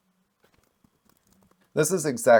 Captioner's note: silence